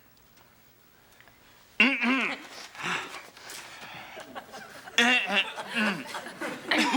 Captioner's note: Mr. Noseworthy clears throat continuously